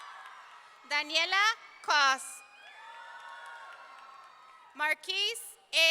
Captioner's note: audience cheering